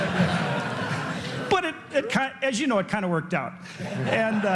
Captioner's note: laughter